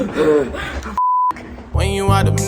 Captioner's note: both panting; high pitched beeping